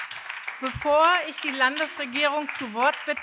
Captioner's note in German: Beifall BÜNDNIS 90/DIE GRÜNEN und SPD